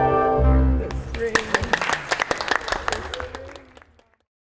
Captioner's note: team clapping